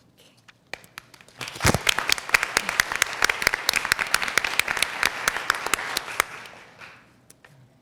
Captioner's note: applause